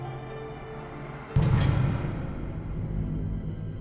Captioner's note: door slamming